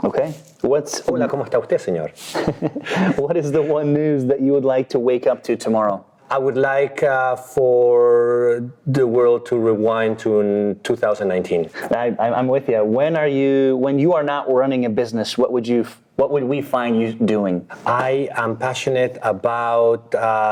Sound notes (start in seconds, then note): 0.9 speaking in foreigh language; 2.2 chuckling